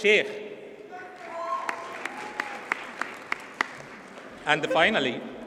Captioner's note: audience cheers and applauds